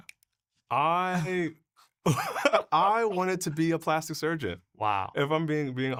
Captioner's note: chuckling